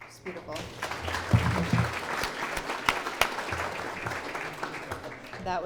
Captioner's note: clapping